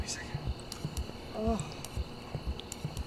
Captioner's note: groans